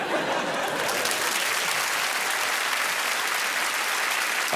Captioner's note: laughing and applause